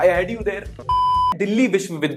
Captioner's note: beep